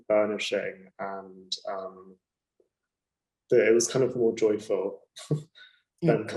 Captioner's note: laughing